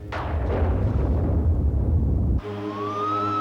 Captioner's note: thunderclaps